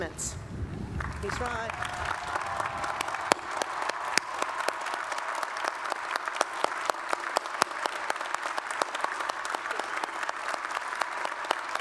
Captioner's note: applause